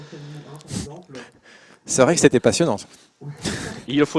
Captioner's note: laughs